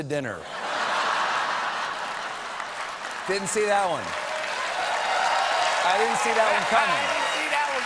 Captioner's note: laughter